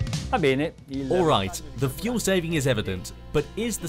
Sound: speaks in foreign language

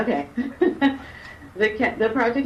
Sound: laughs

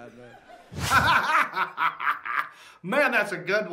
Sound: laughing

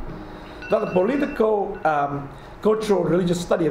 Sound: alarm dinging

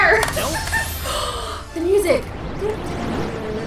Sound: gasp; singing along

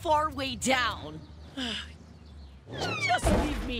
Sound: sighing

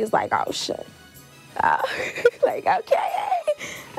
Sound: laughs

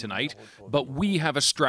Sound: speaking alternate language

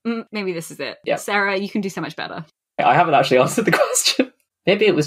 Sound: laughing

